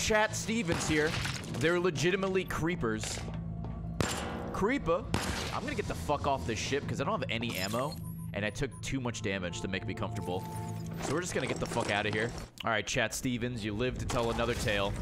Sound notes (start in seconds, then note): none